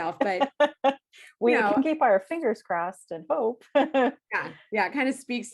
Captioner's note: laughs